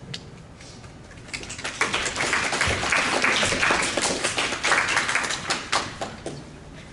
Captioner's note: applause